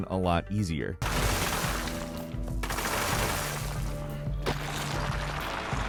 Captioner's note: concrete shattering; concrete crumbling